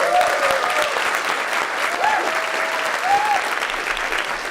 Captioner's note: applause